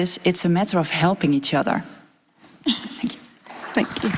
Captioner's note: applause